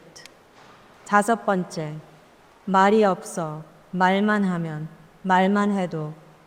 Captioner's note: speaker speaking in foreign language